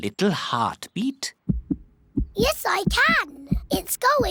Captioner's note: heart thumps